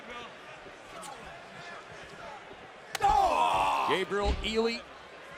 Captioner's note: crowd chatter